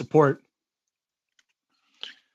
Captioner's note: speaking in French